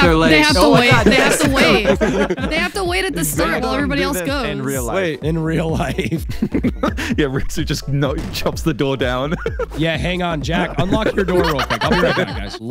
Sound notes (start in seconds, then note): 5.3 laughing; 6.0 laughs; 9.3 laughs